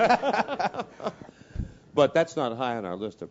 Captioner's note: laugh